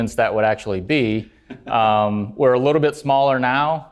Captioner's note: laugh